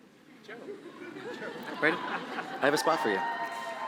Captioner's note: audience laughing